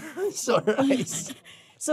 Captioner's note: chuckles